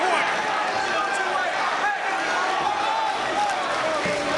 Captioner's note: all chattering